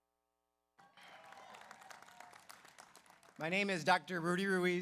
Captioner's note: audience applauds; audience cheers